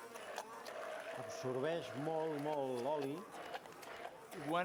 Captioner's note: non-english speech